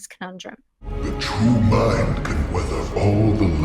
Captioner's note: booming voice